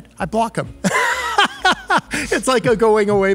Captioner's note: laughs